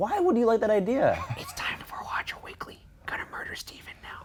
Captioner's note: whispers